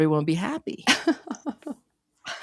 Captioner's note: laughing